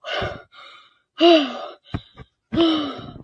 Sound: breathes heavily

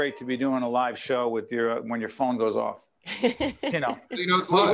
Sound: laughing

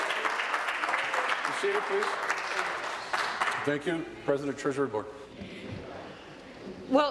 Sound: applause

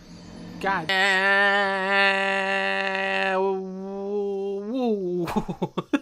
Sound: yelling; laughs

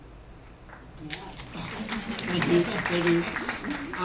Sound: applause

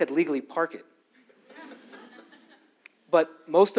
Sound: laugh

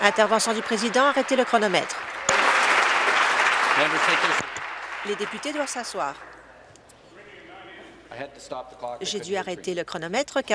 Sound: applause

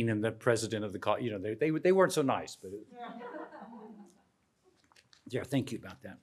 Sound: crowd laughs

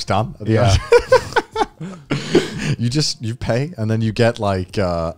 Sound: chuckling

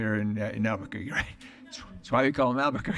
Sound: laughter

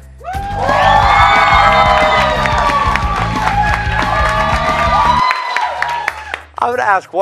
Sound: cheers and applause

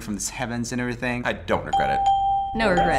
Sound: ding

